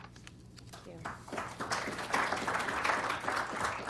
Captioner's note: applause